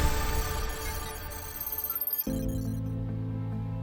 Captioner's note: computer calculating sound effect; uplifting music; dramatic music